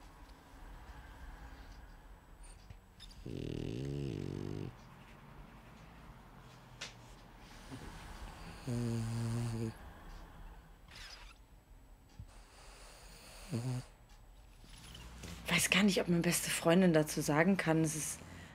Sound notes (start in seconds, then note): 3.1 Helga snores louder; 7.6 Helga snores; 12.4 Helga snores